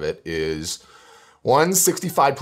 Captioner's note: breath